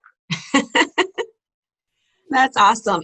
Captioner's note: laughs